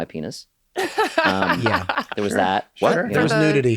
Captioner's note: laughs